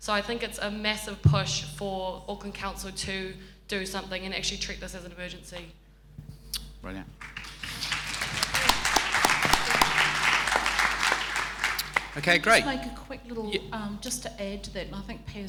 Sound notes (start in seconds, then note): 7.2 applause